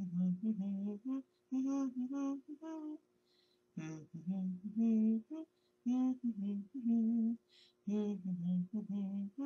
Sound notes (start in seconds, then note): 1.4 humming song